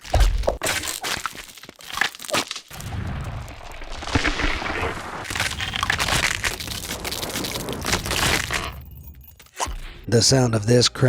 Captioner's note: ice cracks